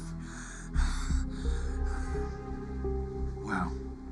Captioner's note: breathing heavily